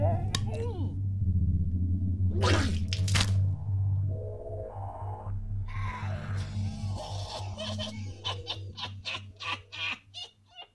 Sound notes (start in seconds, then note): 2.4 creature spits; 6.0 creature laughs